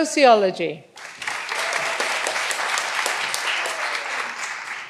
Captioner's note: all applauding